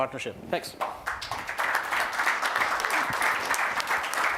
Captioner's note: applause